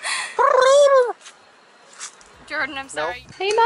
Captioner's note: clucks